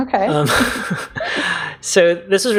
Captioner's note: laugh